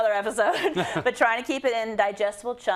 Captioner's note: laugh